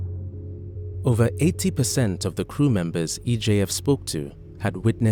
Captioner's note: voiceover